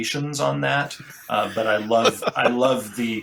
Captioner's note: laughs